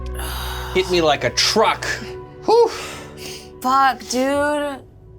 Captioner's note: sighs